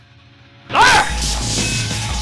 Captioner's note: shouts